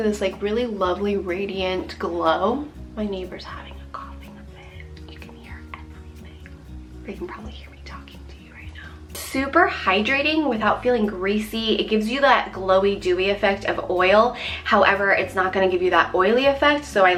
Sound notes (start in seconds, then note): 2.9 whispers